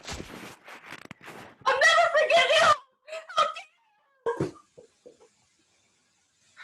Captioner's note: reggie yells incoherently